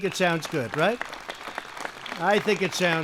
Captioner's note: applause